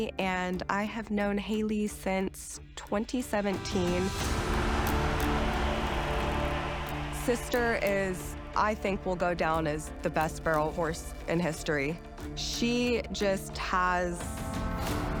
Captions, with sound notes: and I have known Hailey since 2017. [crowd cheering] Sister is, I think, will go down as the best barrel horse in history. She just has...